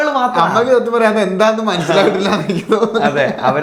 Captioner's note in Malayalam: പൊട്ടിച്ചിരി